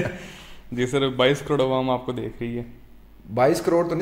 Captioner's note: laughter